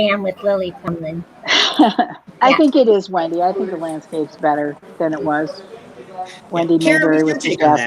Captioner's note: laughs